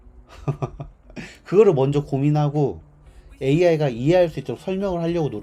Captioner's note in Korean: 웃음